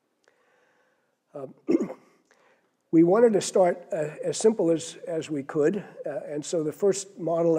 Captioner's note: cough